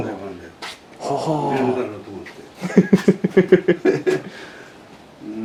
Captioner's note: laughs